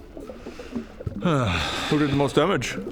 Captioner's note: sigh